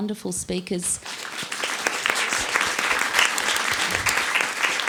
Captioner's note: applause